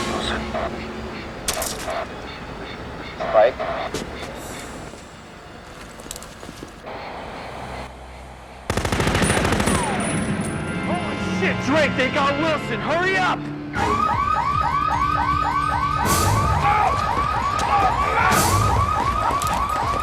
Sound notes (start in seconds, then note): 0.0 ominous music; 8.6 machine gun firing; 13.7 alarm wailing; 14.2 dramatic music; 19.3 alarm wailing; 19.3 dramatic music